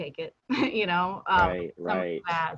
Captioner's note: chuckles